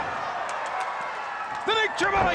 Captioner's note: crowd roaring